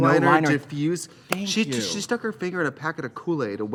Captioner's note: claps hands